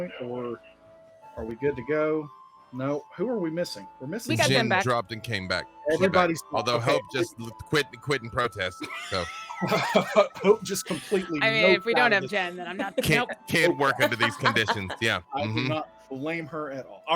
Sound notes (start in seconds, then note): 8.4 laughs; 9.0 wheezes